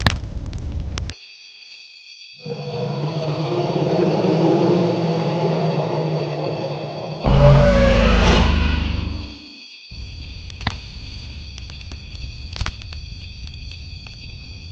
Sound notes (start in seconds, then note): 0.5 crickets chirping; 2.4 dinosaur growling; 9.2 gentle flute music continues; 11.0 fire crackling continues